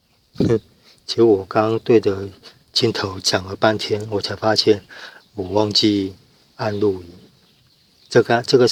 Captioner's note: laughs